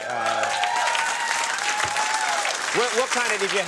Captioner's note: audience cheering